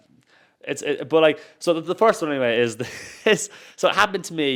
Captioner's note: laughs